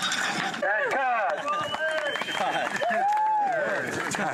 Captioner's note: cheering